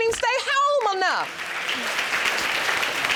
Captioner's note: audience clapping